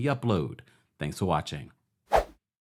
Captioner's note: swooshing